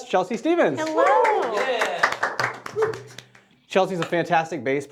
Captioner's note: applause